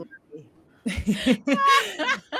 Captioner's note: all chuckling